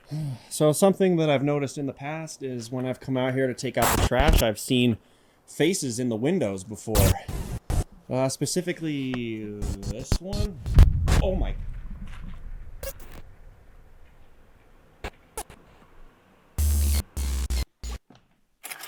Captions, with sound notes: So something that I've noticed in the past is when I've come out here to take out the trash, I've seen faces in the windows before, specifically this one. Oh my! (static crackling)